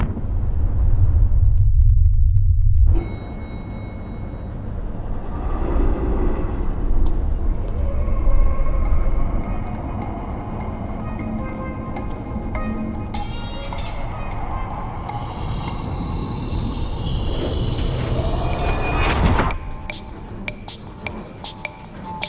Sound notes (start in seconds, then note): 1.2 elevator ding